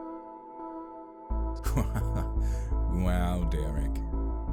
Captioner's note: laughs